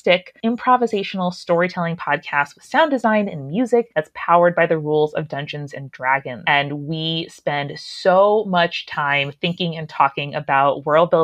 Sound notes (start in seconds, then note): none